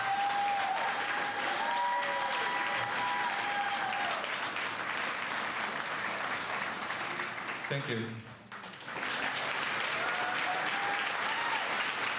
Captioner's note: cheers and applause